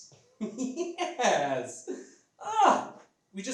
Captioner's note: laughs